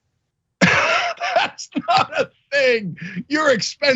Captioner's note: laugh